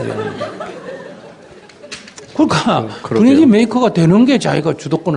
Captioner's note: audience Laughter